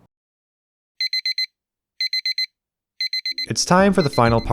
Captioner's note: alarm sounds